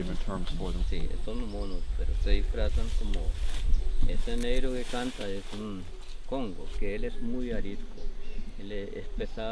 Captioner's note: speaking Spanish